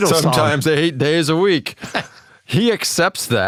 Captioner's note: laugh